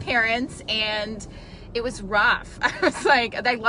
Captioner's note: chuckles